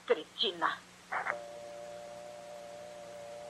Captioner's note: dial tone